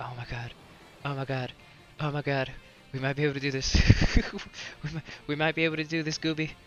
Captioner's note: laughs